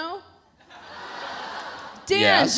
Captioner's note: audience laughs